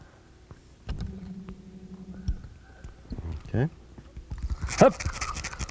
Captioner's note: trolling motor noise